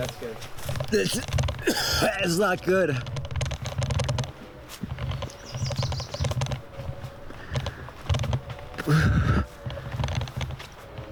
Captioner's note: heaving